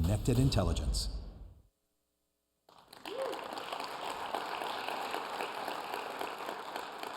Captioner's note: applause